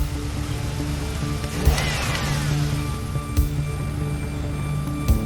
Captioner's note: engine revving